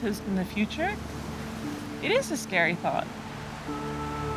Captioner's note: waves crashing